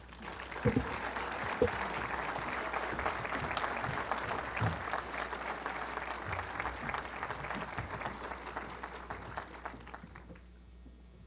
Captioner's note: applause